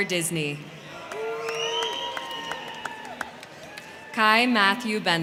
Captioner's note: crowd cheering; crowd clapping